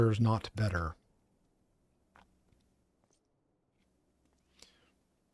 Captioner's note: silence